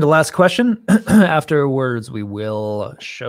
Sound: clears throat

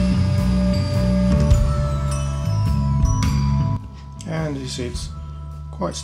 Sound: mixer motor slows and stops

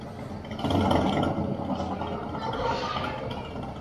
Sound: engine revving

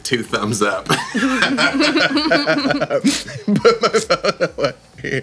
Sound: laughing

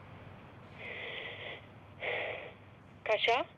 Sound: heavy breathing

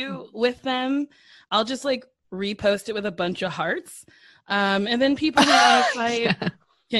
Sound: laughter

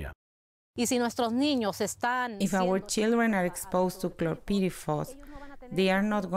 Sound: through translator

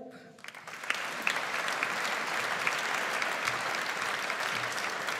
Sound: audience applauds

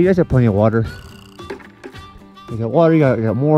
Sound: plastic bucket vibrating

